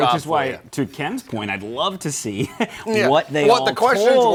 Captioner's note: chuckles